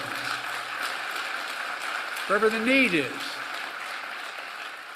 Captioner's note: applause